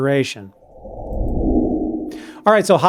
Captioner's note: whoosh